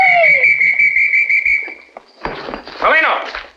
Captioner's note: police whistle